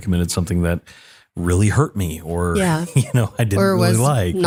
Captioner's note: laugh